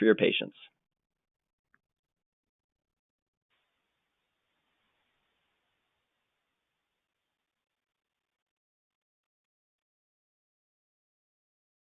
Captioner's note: silence